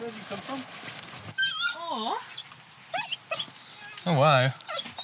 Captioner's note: dog whining